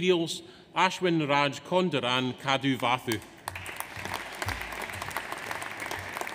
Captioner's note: audience applauds